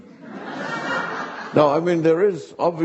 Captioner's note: audience laughing